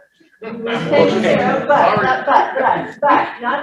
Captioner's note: audience laughs